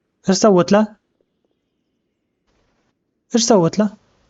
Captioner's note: birds chirping